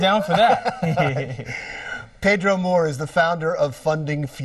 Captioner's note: both laughing